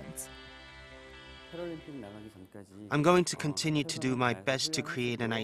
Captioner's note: Korean